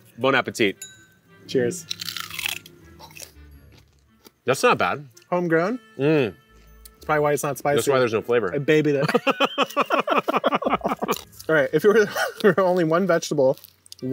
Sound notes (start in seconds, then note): 0.8 glass clanks; 1.8 both crunch; 9.0 both laughs